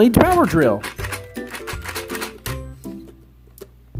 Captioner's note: toy drilling; playful music